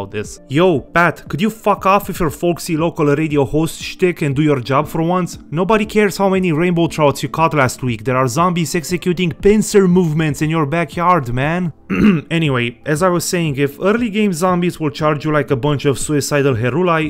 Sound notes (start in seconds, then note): 11.8 theatrical cough